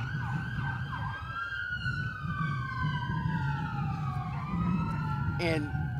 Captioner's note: sirens